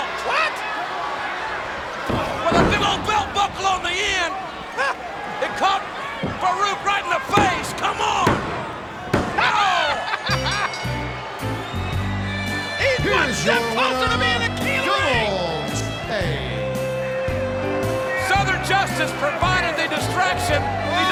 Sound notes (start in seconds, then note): 10.0 Jerry laughs; 10.3 calm country music